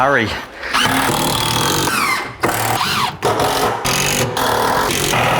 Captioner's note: machine running